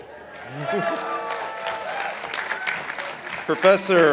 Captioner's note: participants applauding